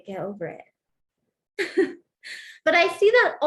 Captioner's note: laughter